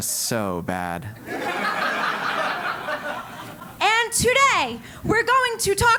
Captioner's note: laugh